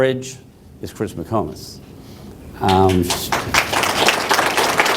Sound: applause

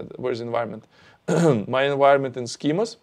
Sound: clears throat

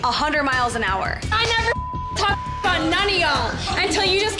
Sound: beep

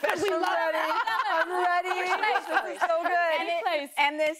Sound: laughter

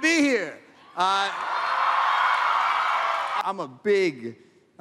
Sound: applause

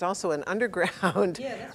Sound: laugh

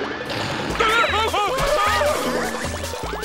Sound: groaning

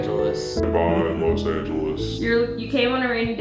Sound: deep voice filter

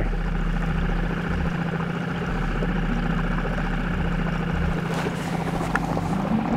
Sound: boat spluttering; dramatic music

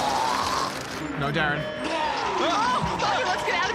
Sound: vomits

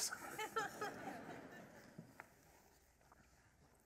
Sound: laughter

